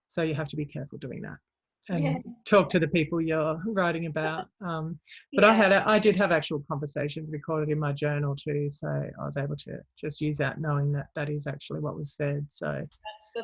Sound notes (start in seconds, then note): 2.5 mumbles